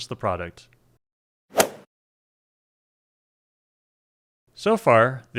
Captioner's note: golf swing sound effect